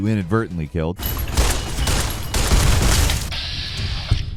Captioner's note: guns firing